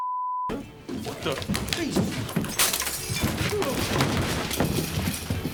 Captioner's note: glass shattering